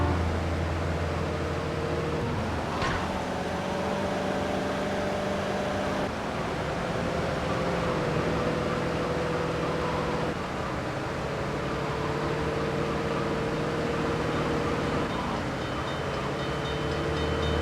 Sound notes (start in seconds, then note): 2.7 gun firing; 9.7 muffled yelling